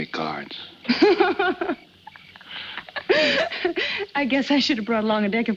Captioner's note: Helen laughs